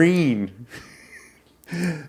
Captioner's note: laughing